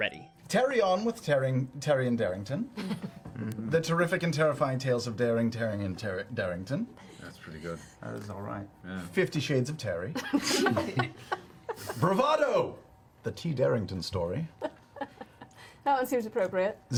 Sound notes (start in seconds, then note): 11.2 all laugh